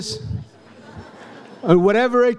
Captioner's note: audience laughs